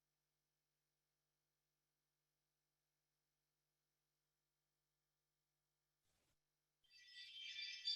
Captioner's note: audio cuts